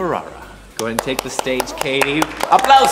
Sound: applause

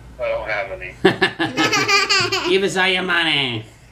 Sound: laughs

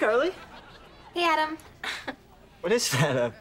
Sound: chuckles

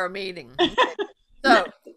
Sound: laughs

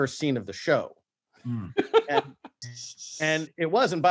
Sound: laughs

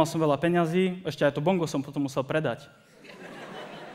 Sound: laughter

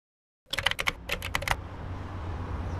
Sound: typing

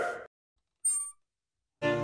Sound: ding

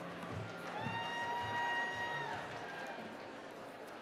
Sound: cheering

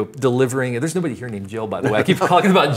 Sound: both laugh

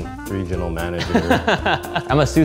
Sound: laughing together

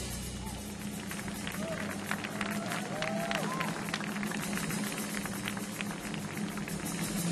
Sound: audience cheering; audience applauding

